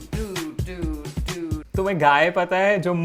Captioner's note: sing-songy; speaking in Hindi